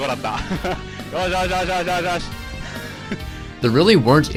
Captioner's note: laughs